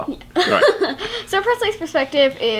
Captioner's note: laughing